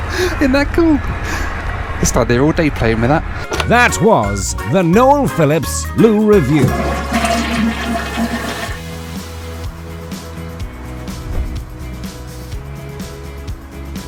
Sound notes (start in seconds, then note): 0.0 laughs; 6.4 loo flushes